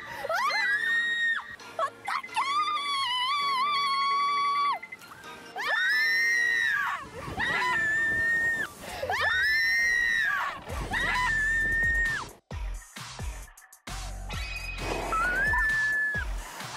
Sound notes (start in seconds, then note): 0.2 screaming; 6.1 sudden fall